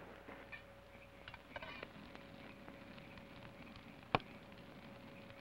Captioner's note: fire crackles